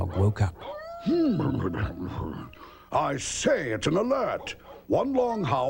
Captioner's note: clears throat